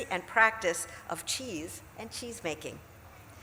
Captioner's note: none